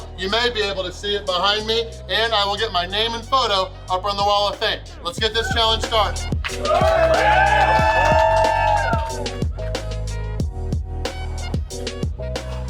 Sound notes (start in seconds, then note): 6.4 crowd cheering; 9.9 upbeat music